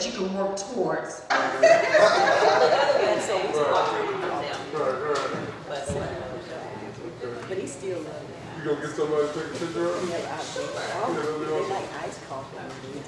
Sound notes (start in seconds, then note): 1.3 group laughs; 3.0 group chattering